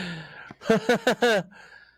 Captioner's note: more fake laughs